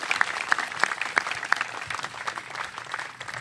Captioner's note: applause